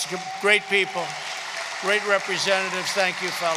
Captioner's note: applause